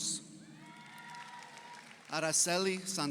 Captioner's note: audience cheers; audience applauds